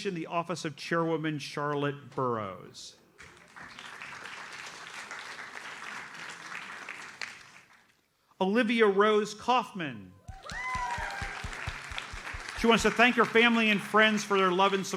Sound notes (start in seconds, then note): 3.2 audience applauds; 10.2 audience cheers and applauds